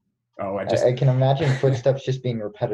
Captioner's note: laughs